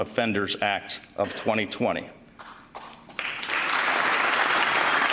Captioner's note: applause